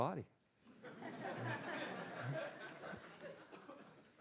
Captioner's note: laughter